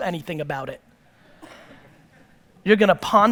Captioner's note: audience laughter